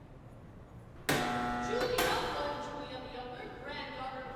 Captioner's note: buzzer